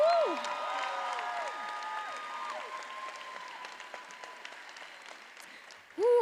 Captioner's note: attendees applauding and cheering